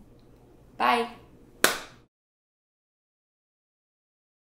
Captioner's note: claps